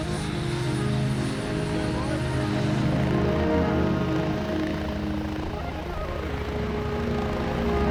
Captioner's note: helicopter whirring